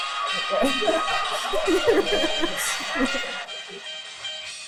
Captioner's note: audience laughs